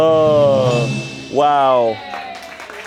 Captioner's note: drum roll hisses; bell chimes; crew cheers and applauds